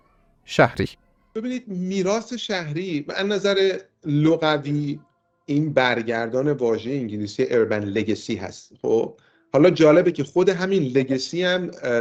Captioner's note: in Persian